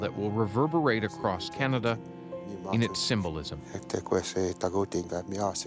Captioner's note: speaking cree language